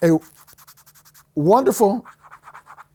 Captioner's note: scratching on the phone case